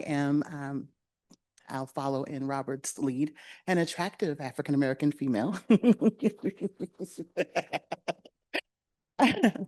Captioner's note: laughing